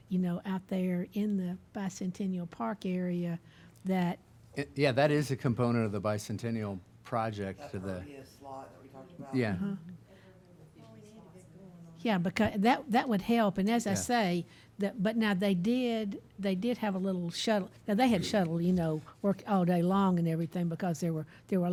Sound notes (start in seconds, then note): 10.5 people chattering